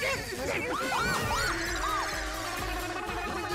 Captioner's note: screaming